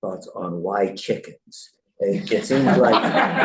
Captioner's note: laughter